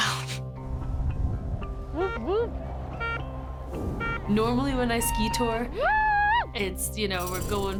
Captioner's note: beeping